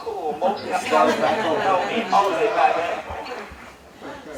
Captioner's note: laughter